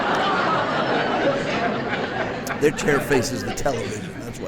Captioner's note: audience Laughing